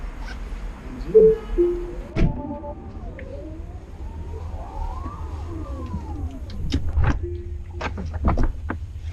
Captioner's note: Falcon Wing Doors Closing; cool SciFi Whirring Sound